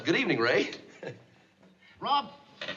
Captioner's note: chuckles